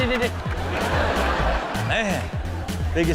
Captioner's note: audience laughs